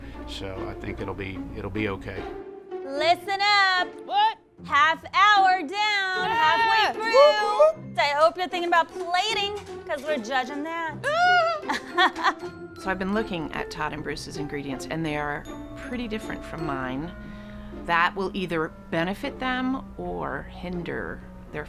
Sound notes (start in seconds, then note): 4.7 yelling; 6.2 cheering; 11.0 yelling; 11.0 laughing